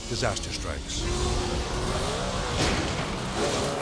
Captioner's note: boat buzzing erratically; boat slamming